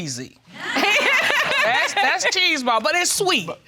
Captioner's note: laughs